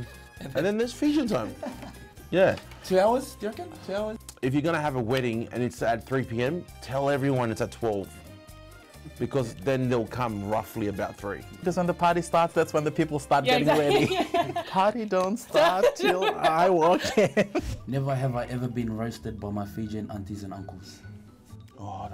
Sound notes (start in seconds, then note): 1.3 chuckles; 15.5 both laughs; 15.6 laughs